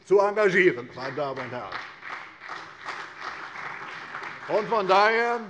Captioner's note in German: Beifall CDU